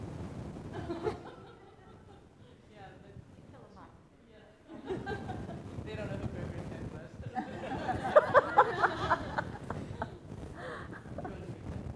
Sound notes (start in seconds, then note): 0.8 people laughing; 2.0 indistinct conversation; 7.3 people laughing